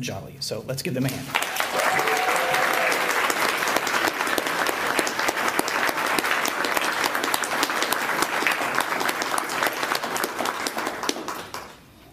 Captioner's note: applause